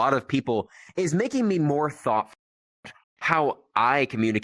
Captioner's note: thoughtful